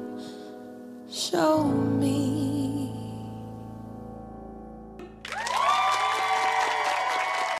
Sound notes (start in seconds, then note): 5.2 cheers and applause